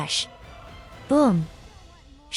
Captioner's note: booom!